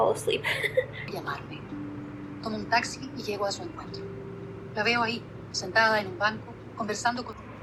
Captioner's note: audiobook playing